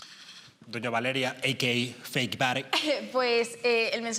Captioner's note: laughs